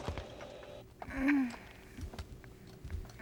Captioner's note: moans